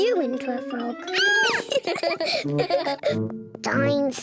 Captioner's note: squeals; both giggle